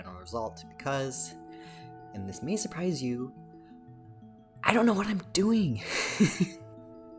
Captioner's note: laughs